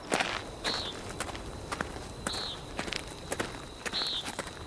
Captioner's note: nighttime insects and bird sounds